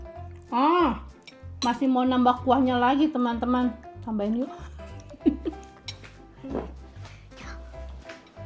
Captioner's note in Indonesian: tertawa